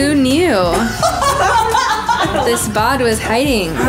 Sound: laughing

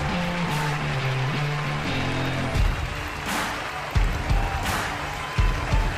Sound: dramatic music; congregation applauding

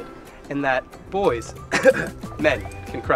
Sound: cough

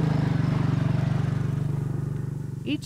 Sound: motor rumbles

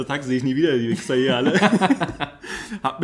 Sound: laughs

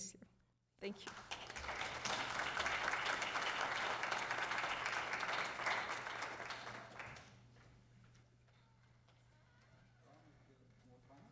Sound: applause

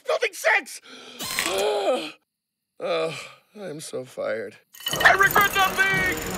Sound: sigh

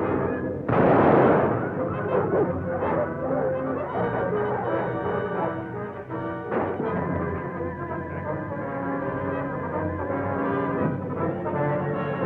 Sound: gunshot

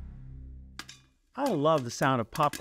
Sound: popcorn popping

